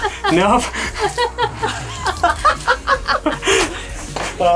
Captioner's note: laughs